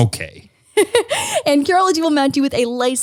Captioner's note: laughs